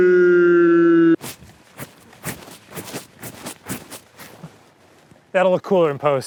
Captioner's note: the only sound is hair flipping